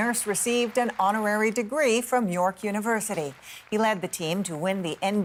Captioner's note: cheers and applause